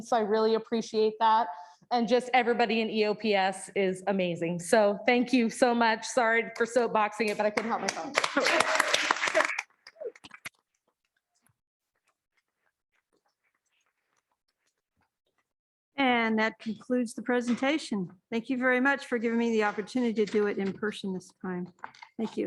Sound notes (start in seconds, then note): 7.5 applause